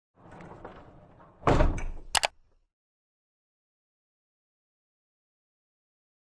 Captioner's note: metallic rolling, banging, and clicking